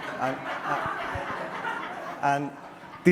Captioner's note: audience laughter